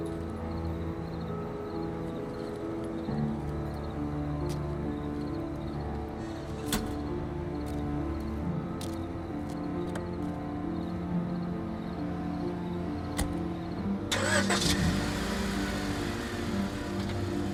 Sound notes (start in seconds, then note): 14.1 car revs